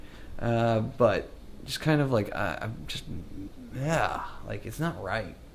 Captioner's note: groans